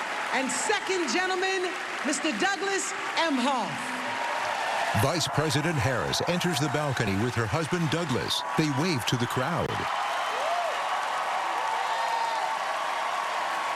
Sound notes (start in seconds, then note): 4.3 cheering and applause